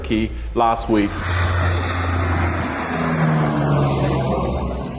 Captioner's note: aeroplane roaring